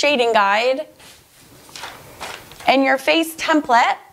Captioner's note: rustles gently